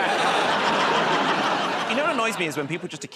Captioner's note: laughter